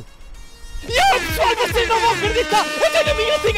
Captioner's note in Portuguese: aos gritos, música histérica, cornetas de dj